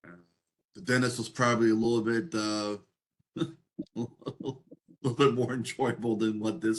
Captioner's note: laugh